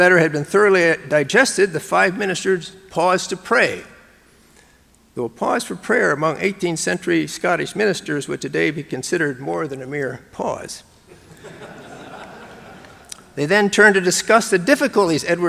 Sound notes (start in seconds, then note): 11.1 audience laughing